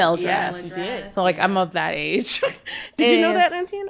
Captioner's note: chuckles